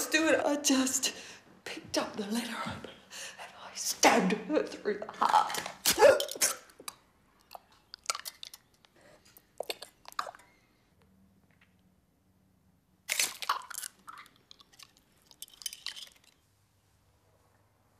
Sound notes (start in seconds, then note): 5.9 gasping; 13.3 gagging